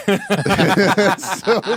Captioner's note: laughing